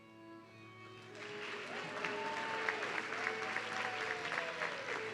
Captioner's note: audience cheering